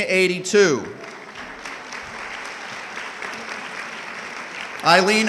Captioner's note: audience clapping